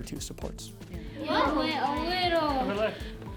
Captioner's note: class chatter